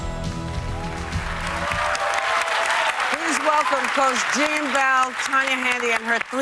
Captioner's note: cheers and applause